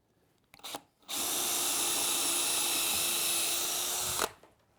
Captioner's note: screw gun